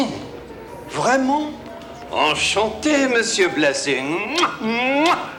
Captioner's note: John speaks French